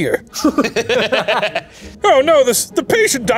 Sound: laughing

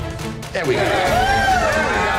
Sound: cheers

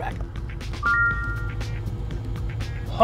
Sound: correct answer ding

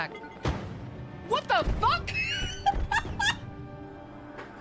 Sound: laughter

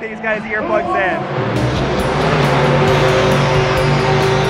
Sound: truck engine revs

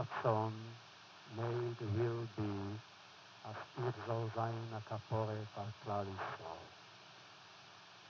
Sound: foreign language

